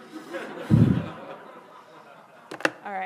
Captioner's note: laughing